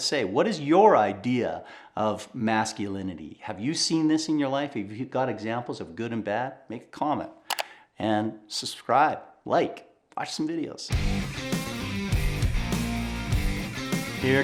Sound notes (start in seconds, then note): 7.5 keyboard clicking; 10.9 dramatic rock music